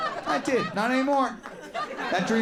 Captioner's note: crowd laughs